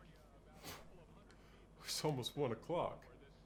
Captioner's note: scoffs